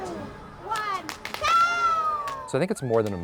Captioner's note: cheers from crowd